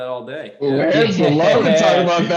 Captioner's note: laughter